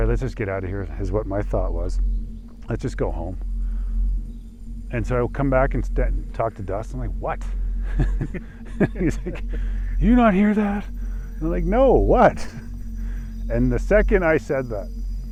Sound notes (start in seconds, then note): 7.8 chuckles